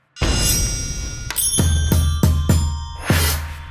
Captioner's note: bells chiming